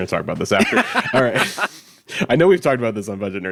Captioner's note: laughing